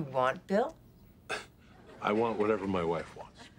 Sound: scoffs; chuckles

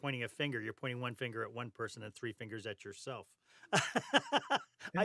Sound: laughter

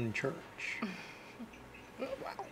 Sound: chuckles

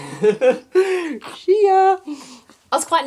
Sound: dad laughs

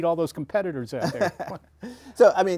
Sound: laughter

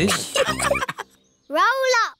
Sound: all laughing

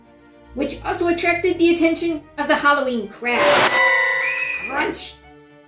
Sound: scream

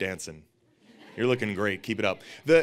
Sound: audience laughing

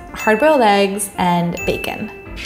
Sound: bell dinging

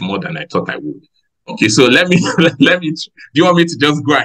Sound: laughs

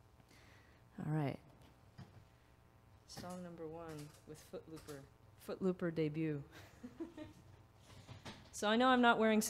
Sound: laughs

